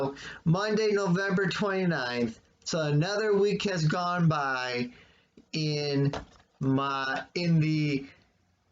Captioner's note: clunk of phone hitting the desk